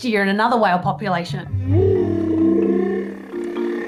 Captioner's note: humming